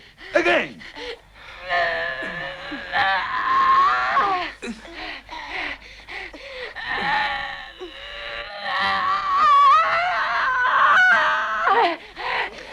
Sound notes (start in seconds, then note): 1.5 Hundra groaning; 8.8 Hundra screaming